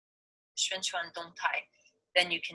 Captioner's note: foreign language